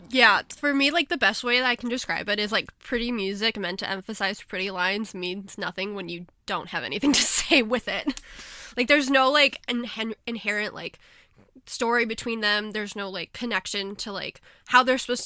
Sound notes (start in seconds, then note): 7.0 laughs